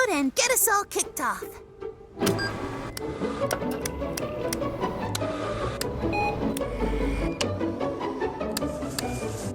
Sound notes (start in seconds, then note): 2.3 buttons beeping; 3.4 switches flicking; 4.4 cheerful, industrious music plays